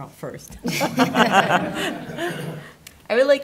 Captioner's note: laughter